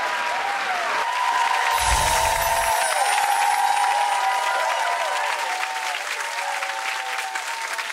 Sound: audience clapping; chimes tinkling

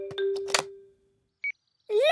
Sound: clicks; meter beeping

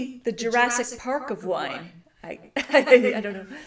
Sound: chuckles

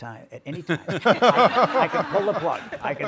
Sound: all laugh

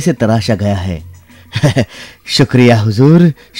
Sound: chuckles

